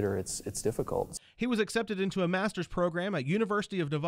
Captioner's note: voiceover